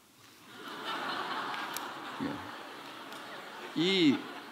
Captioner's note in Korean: 웃음